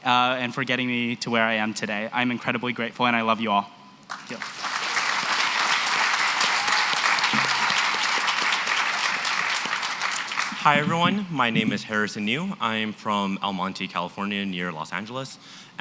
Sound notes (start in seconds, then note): 4.0 applause